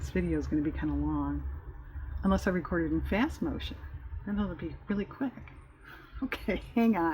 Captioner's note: laughs